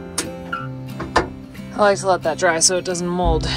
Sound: latch clicking

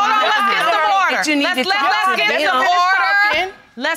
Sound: continue arguing

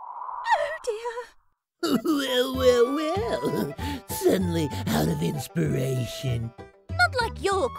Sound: chuckle

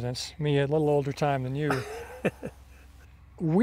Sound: chuckles

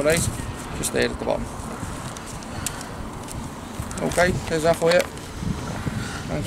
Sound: sighs

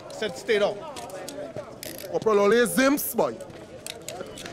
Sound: in foreign language

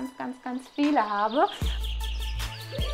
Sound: chirping

